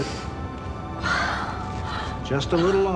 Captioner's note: gasping